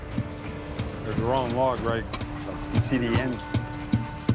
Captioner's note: thudding on wood